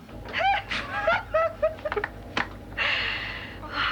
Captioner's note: giggling